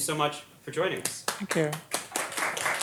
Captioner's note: applause